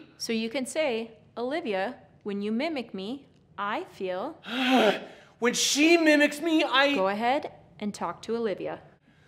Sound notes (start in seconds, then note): 4.4 huffs